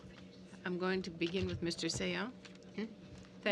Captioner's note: speaking french